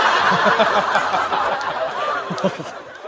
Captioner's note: haha